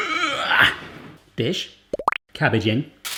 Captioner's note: popping